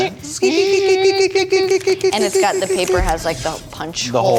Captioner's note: imitating robots